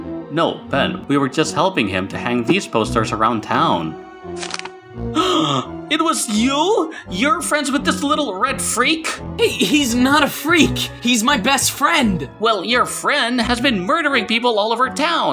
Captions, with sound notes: No, Pen. We were just helping him to hang these posters around town. (Gasp) It was YOU?! You're friends with this little red freak?! H- he's not a freak! He's my best friend! Well, your "friend" has been murdering people all over town!